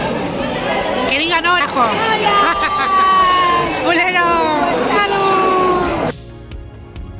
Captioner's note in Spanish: risas